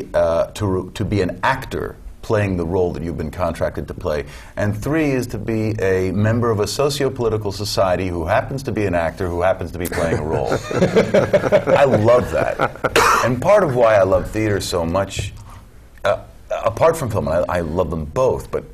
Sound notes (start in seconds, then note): 9.9 laugh; 12.9 cough